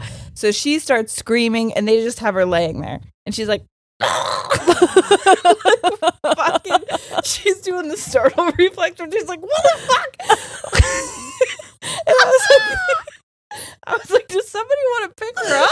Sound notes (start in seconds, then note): 4.0 screaming; 4.5 both laughing; 9.6 both laughing